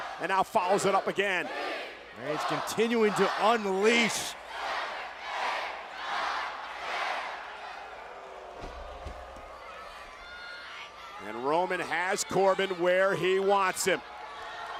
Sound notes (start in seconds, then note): 8.4 crowd booing; 10.4 crowd shouting; 14.5 crowd exclaiming